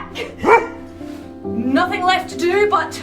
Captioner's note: dog barking